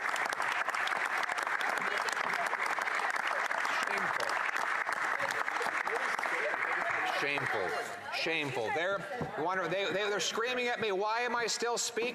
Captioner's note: applause